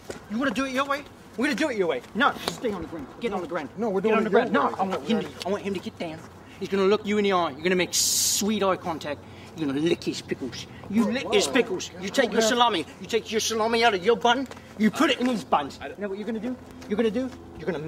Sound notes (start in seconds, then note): none